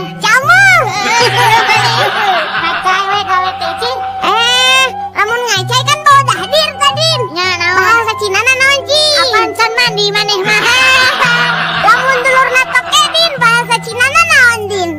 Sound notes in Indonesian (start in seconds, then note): 0.8 tertawa; 4.6 berteriak